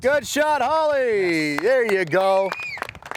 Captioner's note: audience clapping and cheering